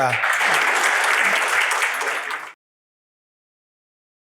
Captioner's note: audience applauding